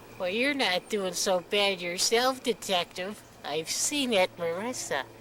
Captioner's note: none